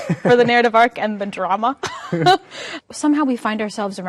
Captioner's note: both laughing